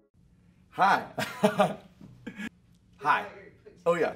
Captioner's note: laughing